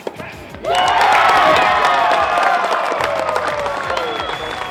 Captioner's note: audience cheers